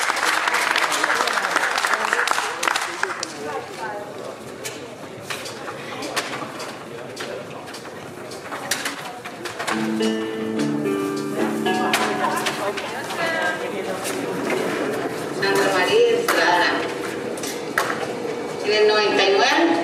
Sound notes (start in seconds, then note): 9.7 calming music; 15.4 speaking in foreign language